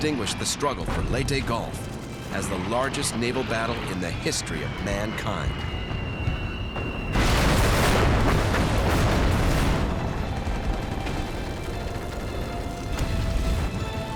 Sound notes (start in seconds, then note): 6.8 explosion; 9.5 gunfire